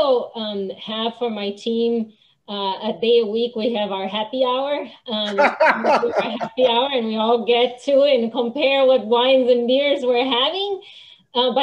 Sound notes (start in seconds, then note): 5.2 laughing